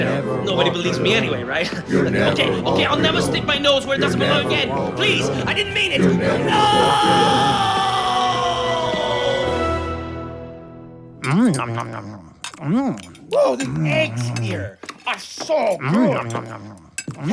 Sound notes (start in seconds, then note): 0.0 chanting; 1.4 chanting; 3.5 chanting; 5.9 chanting; 11.2 chewing